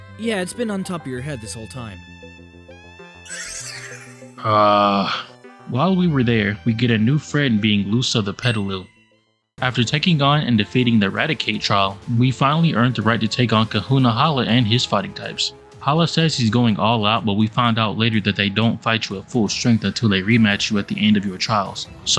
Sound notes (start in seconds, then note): 4.8 groans